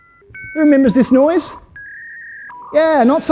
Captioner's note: dial-up modem screeches